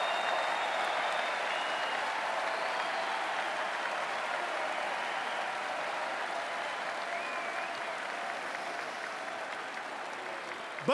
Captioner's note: cheering and Applause